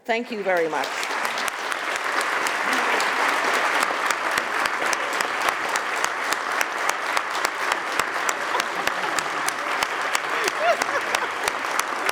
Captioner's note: applause